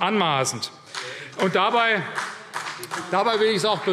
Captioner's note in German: Vereinzelter Beifall CDU und BÜNDNIS 90/DIE GRÜNEN